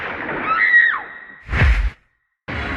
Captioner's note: gunshot, woman shrieks; whoosh; heroic music